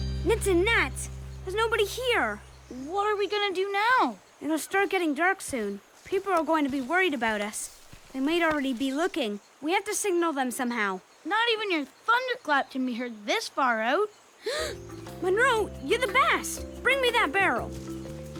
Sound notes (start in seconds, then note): 14.4 gasps